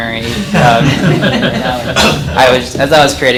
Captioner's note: audience laughs